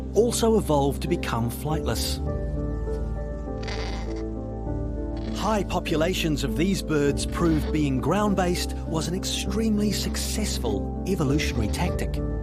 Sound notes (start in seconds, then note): 3.6 kakapo cawing